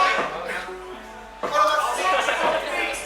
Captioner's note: participants laughing